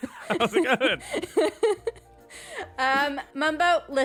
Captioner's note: laughter; laughs